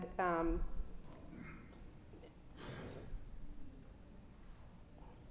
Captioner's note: audience member coughing